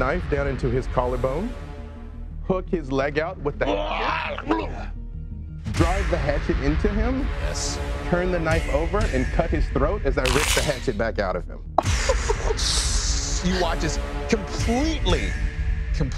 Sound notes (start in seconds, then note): 3.6 groaning; 11.6 dramatic instrumental music